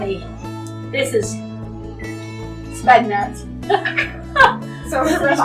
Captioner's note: laughs